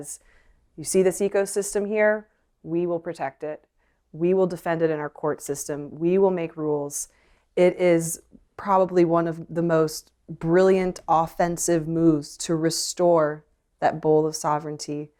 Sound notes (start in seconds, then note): none